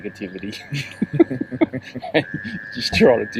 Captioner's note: laughing